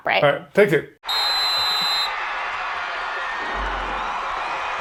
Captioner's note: people cheering